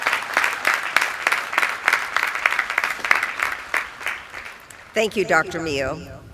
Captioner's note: applause